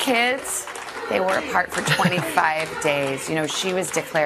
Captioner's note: cheers and applause